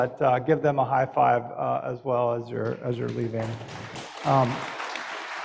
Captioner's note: applause